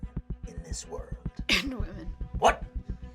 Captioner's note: coughs